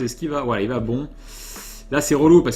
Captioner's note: inhale seriously